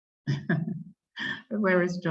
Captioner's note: laughs